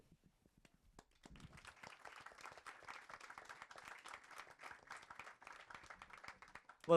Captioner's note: attendees applauding